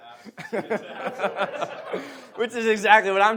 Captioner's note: audience laughs